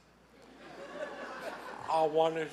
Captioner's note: laughing